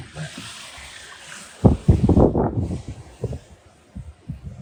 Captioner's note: wind rustling